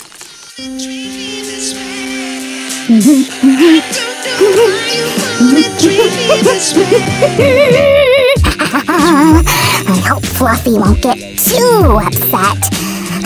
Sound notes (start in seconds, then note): 4.8 humming